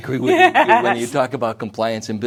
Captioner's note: chuckling